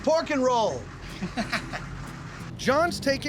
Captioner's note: laughter